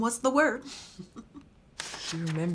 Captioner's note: Miss Dottin chuckles